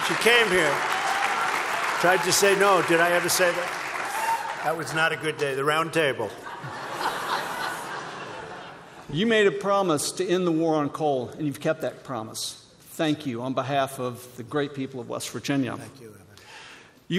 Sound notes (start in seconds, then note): 6.3 laughter